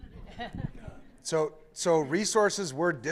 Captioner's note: laughter